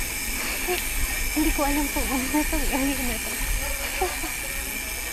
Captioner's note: laughs